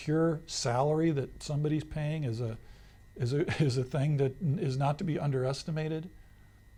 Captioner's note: laughs